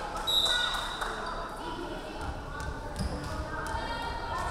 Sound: referee whistling

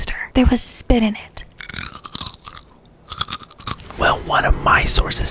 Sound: crunching

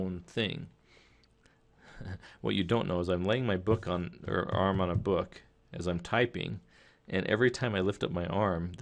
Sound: chuckle

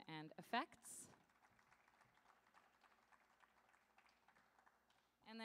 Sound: audience applauding

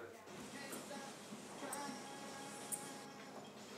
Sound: clock ticking

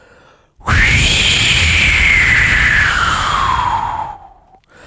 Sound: whoosh

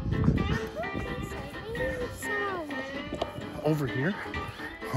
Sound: mumbles

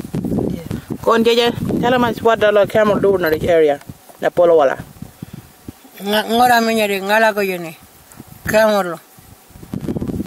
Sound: speaks in Aboriginal language

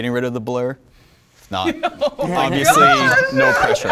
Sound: laughs

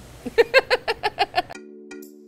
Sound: laughing; bright electronic music

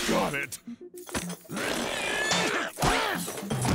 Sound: grunting

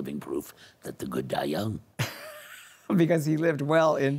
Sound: laughing

